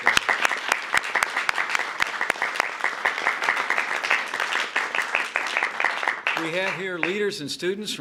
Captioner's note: applause